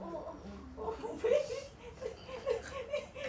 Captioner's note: carers laugh